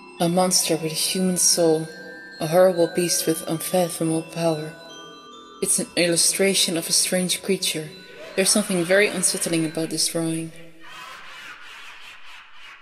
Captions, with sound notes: A monster with a human SOUL, a horrible beast with unphatomable power. ...It's an illustration of a strange creature. (laughter in bg) there is something very unsettling about this drawing.